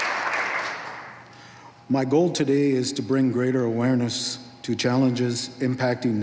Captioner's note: applause